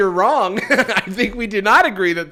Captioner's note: laughs